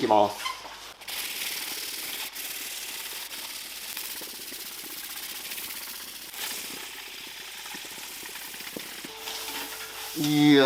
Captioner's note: working sound